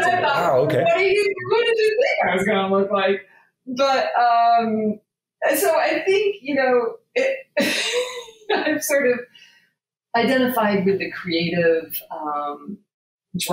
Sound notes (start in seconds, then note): 7.2 laughing